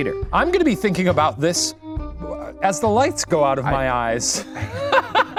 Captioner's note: laughs